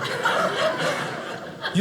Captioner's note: audience laughing